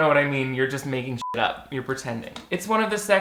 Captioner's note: beep